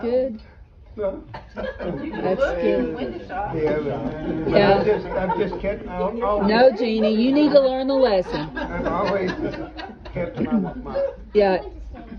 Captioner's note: laughter